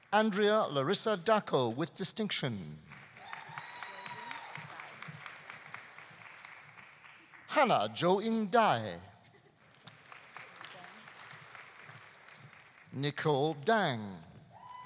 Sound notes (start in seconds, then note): 2.8 audience applauding; 3.1 audience cheering; 9.5 audience applauding; 14.5 audience cheering; 14.6 audience applauding